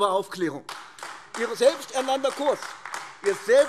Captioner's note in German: Beifall AfD